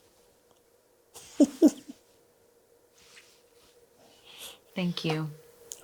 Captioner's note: chuckles softly